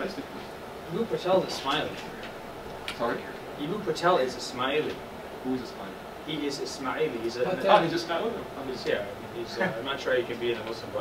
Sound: discussion, laughter

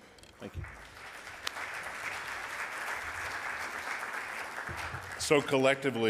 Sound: audience applauding

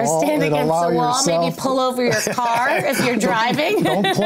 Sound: laughs

